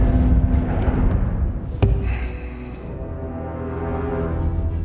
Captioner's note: whoosh; thud; sighs